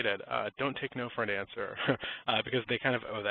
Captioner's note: chuckles